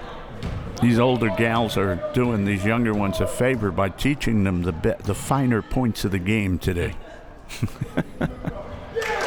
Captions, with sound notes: These older gals are doing these younger ones a favor by teaching them the bit, the finer points of the game today (laughs).